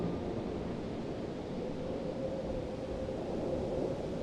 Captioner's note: wind blowing